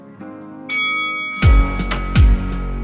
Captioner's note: ding